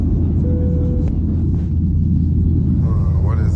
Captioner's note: digital beeping